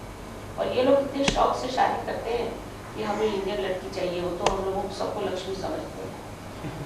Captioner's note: hindi